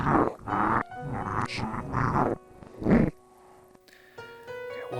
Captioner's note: speaking in foreign language